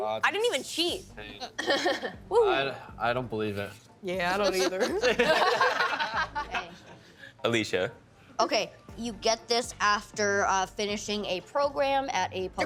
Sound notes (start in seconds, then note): 1.5 laughing; 5.0 all laughing